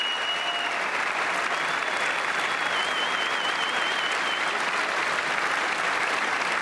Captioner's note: applause